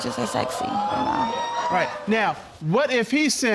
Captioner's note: audience exclaiming